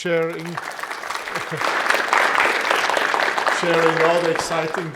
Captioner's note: audience applauding